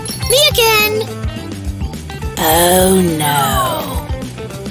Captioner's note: shouting, screaming, and crushing noises